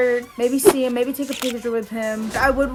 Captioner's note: air whooshes; camera clicks